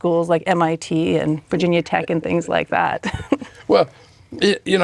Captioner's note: chuckles